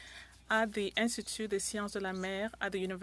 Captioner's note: speaking French